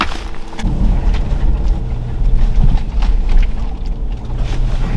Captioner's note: engine rumbling